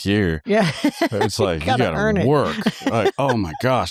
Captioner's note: laughter